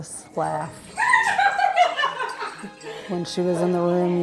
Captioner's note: laughs